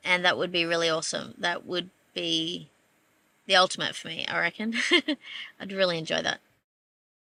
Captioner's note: laughs gently